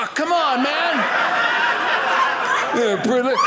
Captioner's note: audience laughing